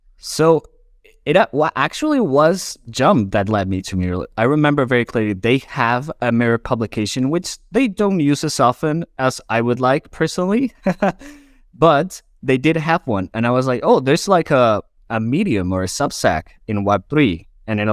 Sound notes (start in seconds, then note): 10.8 laughs